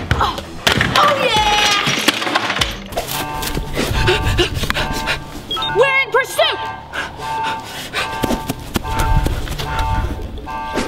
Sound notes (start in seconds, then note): 0.3 energetic guitar; 3.7 girl panting; 6.3 emergency siren